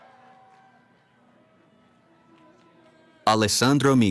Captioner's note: cheering